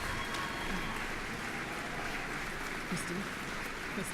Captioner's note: applause